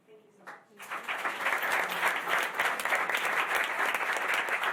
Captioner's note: applause